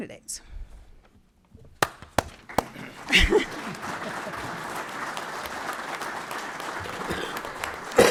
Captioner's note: applauding